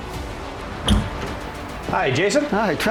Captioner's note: door clatters open